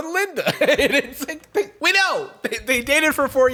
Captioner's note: laughs